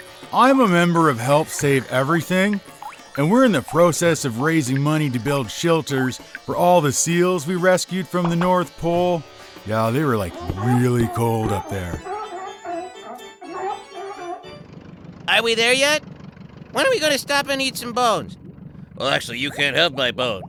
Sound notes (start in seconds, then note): 11.5 seals barking